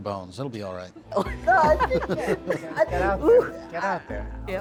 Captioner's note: group laughs